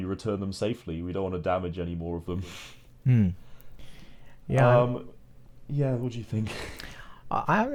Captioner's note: chuckles